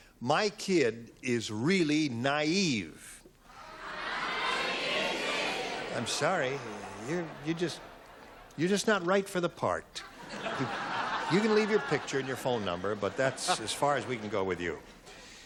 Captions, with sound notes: - --my kid is really naive. [audience responding] I'm sorry, you're just not right for the part. [laughter] You can leave your picture and your phone number, but that's as far as we can go with you.